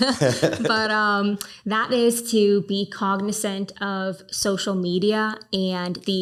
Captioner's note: both laughing